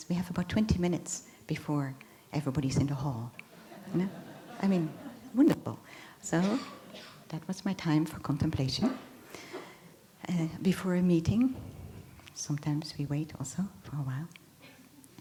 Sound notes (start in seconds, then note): 3.5 laughter